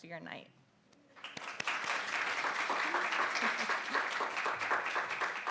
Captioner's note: audience clapping